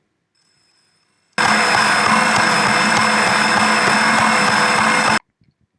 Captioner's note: stand mixer, beating away, still super loud